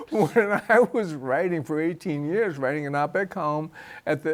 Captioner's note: chuckles